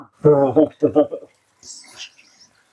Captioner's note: laughs